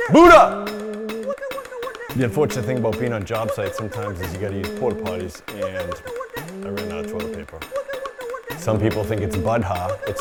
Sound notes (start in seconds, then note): 1.1 metal clanging; 1.1 tube vibrating; 7.5 commotion continues